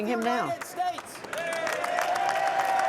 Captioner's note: cheering and applause